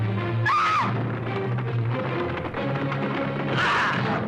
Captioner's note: woman screaming